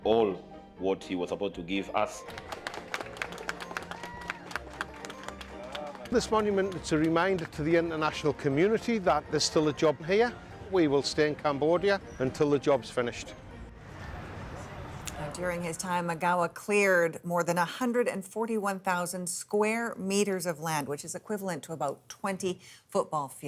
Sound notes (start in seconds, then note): 8.8 applause